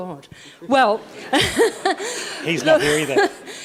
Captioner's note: laughing